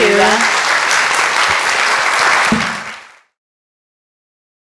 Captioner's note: audience applauds